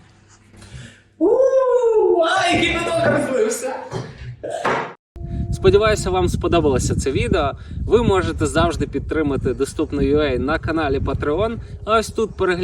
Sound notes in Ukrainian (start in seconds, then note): 4.4 смішок